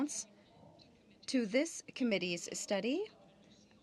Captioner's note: speaking in french